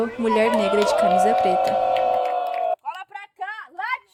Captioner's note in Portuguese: palmas e assovios